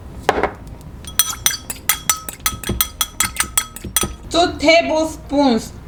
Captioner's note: fork clanging